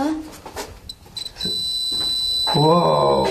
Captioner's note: metre beeping